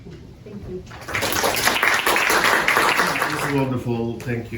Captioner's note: applause